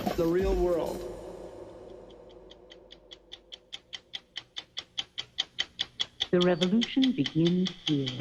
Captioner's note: soundbite of ticking clock